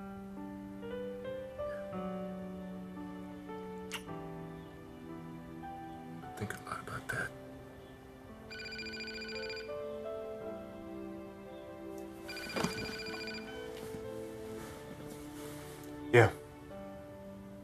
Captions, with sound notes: YEAH. I'VE BEEN THINKING A LOT ABOUT THAT. [ Ringing of telephone ] YEAH.